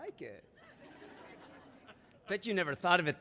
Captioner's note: audience laughing